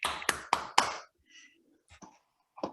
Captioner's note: clapping